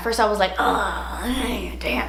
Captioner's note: she groans